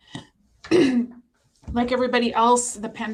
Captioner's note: clearing throat